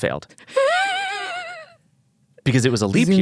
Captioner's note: laughs